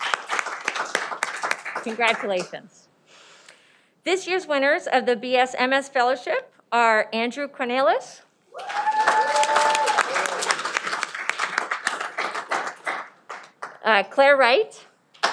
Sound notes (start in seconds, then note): 8.5 cheering